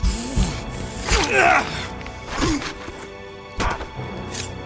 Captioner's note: soldier grunting